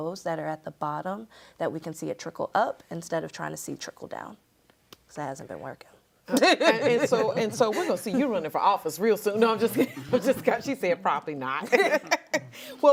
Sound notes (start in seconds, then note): 6.3 group laughs; 11.6 laughs